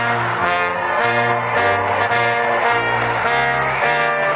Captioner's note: applause